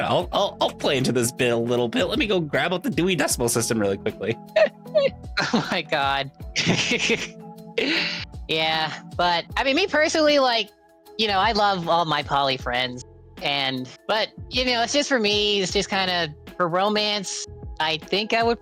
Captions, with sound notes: I'll play into this bit a little bit. Let me go grab out the Dewey Decimal system really quickly." (laughs) Oh my God. (laughs) Yeah, but, I mean, me personally, like, you know, I love all my poly friends and, but, you know, it's just for me, it's just kind of for romance. I think I would